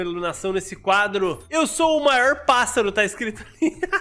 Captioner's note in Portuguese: risos